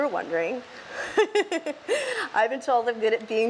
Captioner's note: laughs